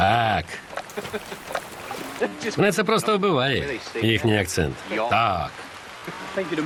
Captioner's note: chuckling